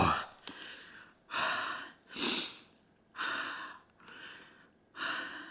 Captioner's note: breathing deeply